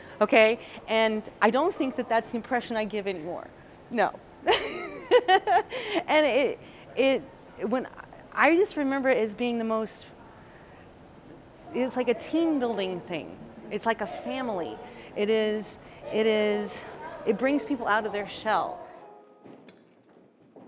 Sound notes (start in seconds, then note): 4.5 laughing